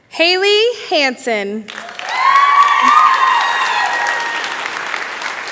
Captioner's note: cheering